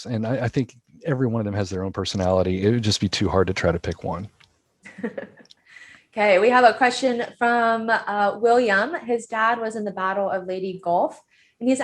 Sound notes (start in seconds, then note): 4.8 laughing